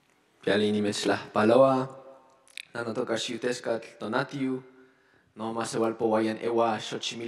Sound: speaks in foreign language

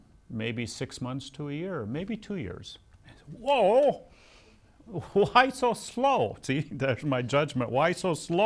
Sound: laughs

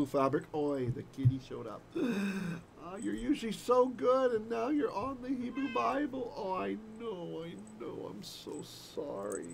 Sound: cat meows

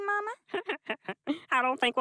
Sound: giggles

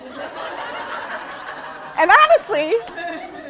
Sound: laughing

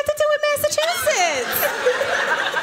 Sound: laughter

